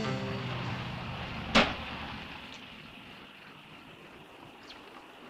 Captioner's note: car engine rumbling